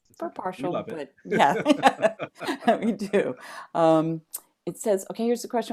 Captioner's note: laughter